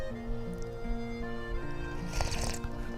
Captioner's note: sipping